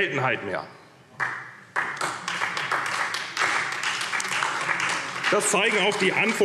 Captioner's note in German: Beifall SPD